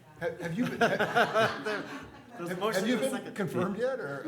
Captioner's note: laughter